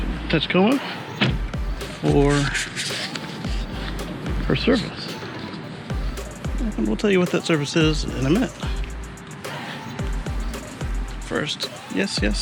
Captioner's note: chuckles